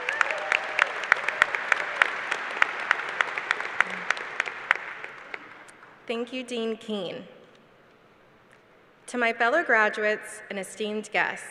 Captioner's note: applause